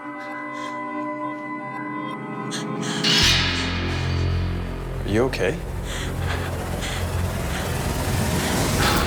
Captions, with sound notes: (gasping) - Are you okay?